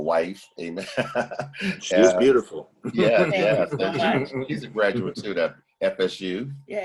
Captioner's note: laughter